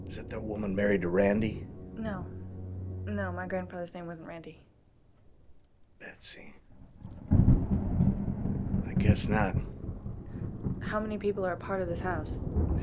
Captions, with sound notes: - Is that that woman married to Randy? - No. No, my grandfather's name wasn't Randy. - Betsy. (thunder rumbling) I guess not. - How many people are a part of this house?